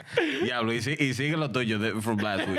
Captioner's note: speaking In Foreign Language